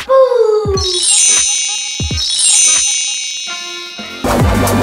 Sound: magic chimes; upbeat music

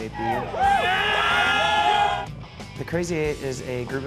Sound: crowd screaming

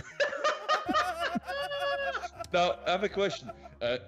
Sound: laugh

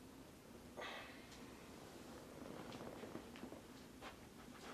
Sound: Rob sighs

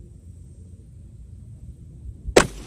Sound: report of the rifle

